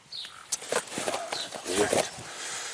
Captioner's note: whispering